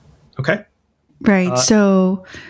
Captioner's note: uh